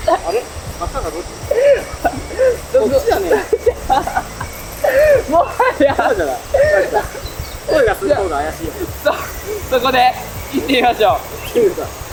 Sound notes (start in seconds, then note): 6.8 laughs